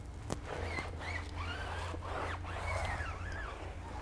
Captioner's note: squeaking